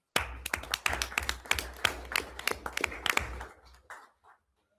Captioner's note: everyone applauds